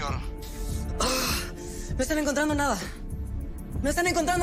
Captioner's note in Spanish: Gruñido